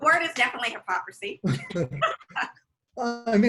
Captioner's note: laughs